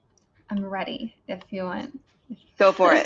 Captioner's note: laughs